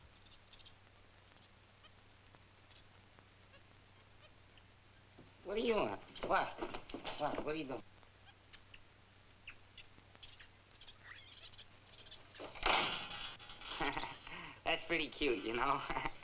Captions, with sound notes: What do you want? What? What? What are you doing? (door slams) (laughs) That's pretty cute, you know?